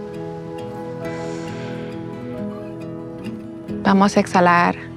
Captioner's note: deep inhale and exhale